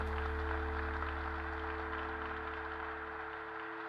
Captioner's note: applause